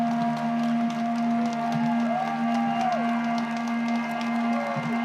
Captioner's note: applause